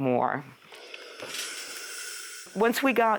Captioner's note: clothing iron hissing